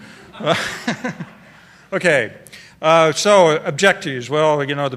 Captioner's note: laughter